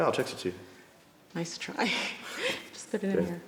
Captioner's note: laughs